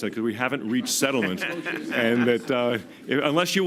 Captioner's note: laughter